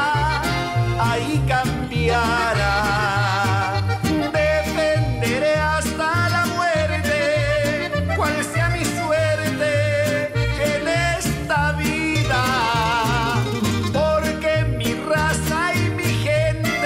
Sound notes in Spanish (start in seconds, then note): none